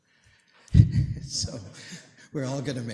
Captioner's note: laughter